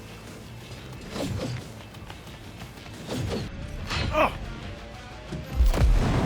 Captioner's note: grunts